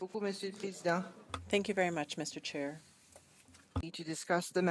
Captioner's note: speaking in French